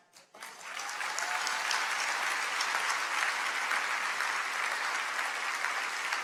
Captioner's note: crowd clapping; crowd cheering